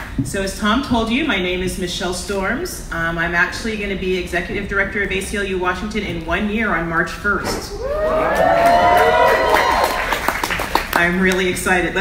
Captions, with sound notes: So as Tom told you, my name is Michele Storms. I'm actually gonna be Executive Director of ACLU Washington in one year on March 1st. (audience applauds) (audience cheers) I'm really excited.